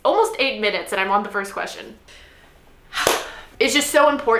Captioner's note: sighs